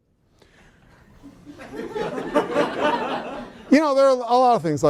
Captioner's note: laughter